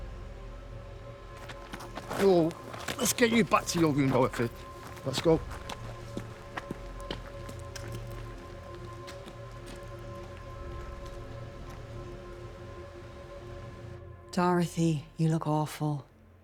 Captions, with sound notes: (feet pattering) - Whoa, let's you back to your room, Dorothy. Let's go. (footsteps plodding) (pensive music continues) - Dorothy, you look awful.